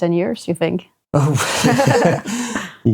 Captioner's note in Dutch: beide lachend